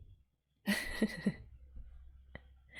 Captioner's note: chuckles